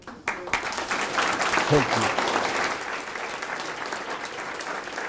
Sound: audience applause

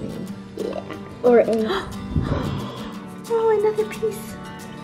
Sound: gasps

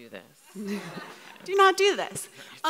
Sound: audience laughs

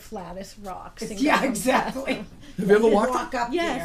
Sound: voiceover

